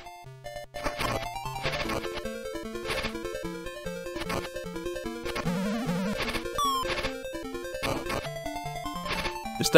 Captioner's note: game Sounds